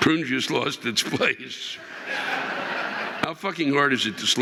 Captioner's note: audience laughing